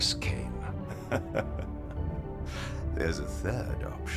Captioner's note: laughing softly